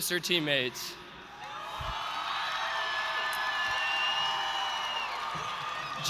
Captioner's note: the audience cheers